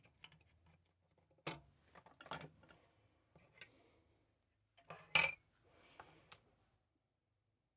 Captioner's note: silence